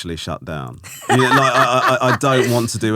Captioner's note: laughing